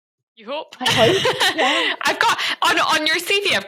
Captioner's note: laughs